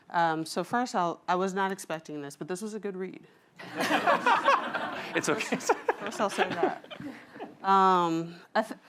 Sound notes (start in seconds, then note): 3.6 laughter